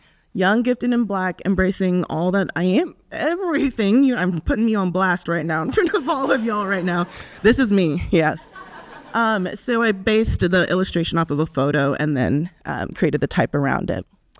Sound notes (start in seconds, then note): 5.7 audience laughs